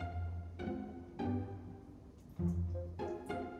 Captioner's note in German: erschrocken